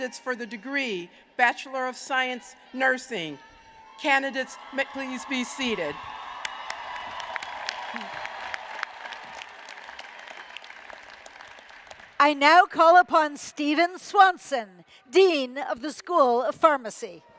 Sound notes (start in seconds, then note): 5.8 applause